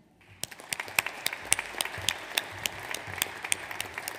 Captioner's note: audience applauds